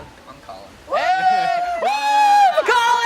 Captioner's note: all cheer